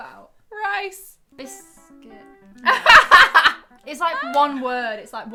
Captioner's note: laughing